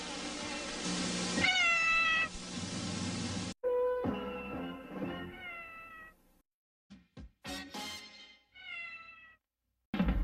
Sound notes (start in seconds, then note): 1.4 Mimsie mewing; 5.2 Mimsie mews; 8.5 Mimsie mewing